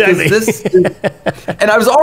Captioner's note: laughing